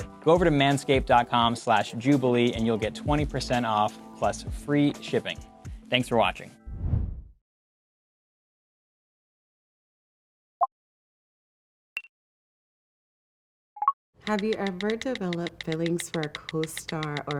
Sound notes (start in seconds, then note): 10.7 text popping